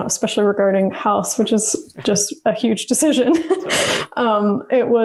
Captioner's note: laughs